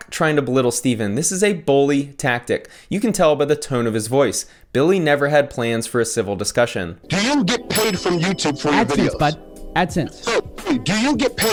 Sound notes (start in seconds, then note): 7.5 bell dinging; 11.4 bell dinging